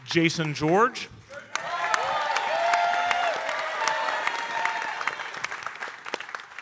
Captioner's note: audience cheering and applauding